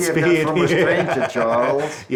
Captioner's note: laughs